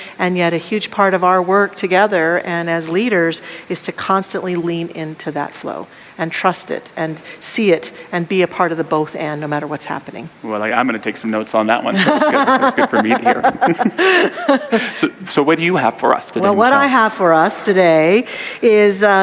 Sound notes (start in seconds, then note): 11.9 laughter